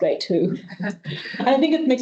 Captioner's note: both chuckling